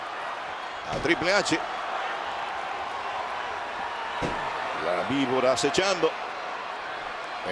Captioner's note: applause